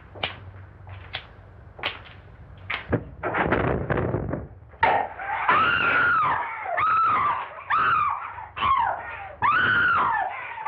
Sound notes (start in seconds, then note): 3.4 door slamming; 5.1 both screaming